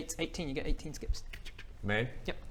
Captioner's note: tsch-tsh-th